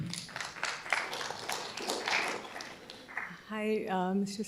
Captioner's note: audience applauding